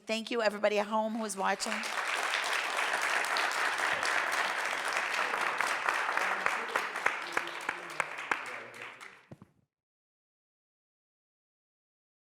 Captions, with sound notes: Thank you everybody at home who is watching. (audience applauding) (people chattering)